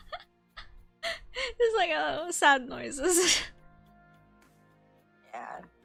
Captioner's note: sad noises